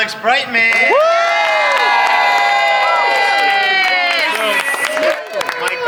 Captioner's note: cast cheers and applauds